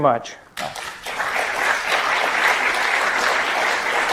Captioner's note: audience clapping